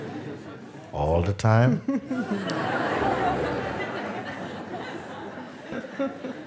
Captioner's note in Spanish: risas; risas